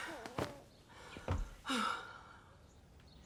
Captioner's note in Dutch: zucht